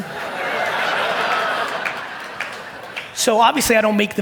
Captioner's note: audience laugh and applaud